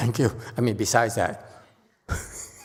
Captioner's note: chuckles